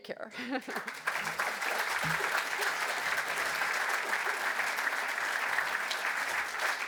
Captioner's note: audience applause